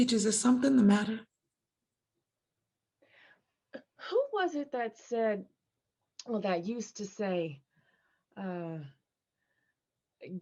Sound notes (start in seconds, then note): none